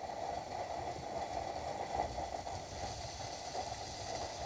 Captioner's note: kettle sizzling